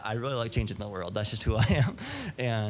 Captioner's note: laughing